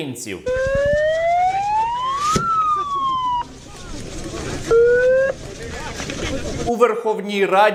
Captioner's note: police siren sound